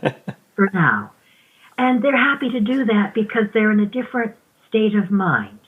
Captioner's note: chuckles